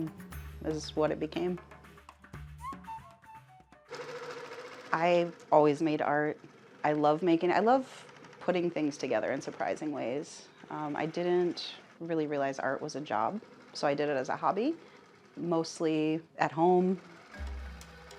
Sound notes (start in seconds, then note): 0.0 upbeat energetic music; 4.4 sewing machine whirring; 17.3 upbeat cheerful music